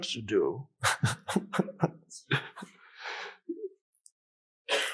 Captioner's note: Eckhart laughs